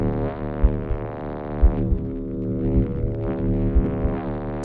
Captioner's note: deep, rumbling pulse